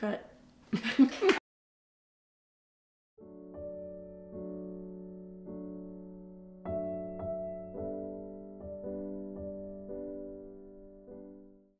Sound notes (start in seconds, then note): 0.7 laughs; 3.2 gentle piano music